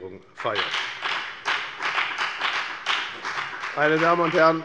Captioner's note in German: Beifall bei der FDP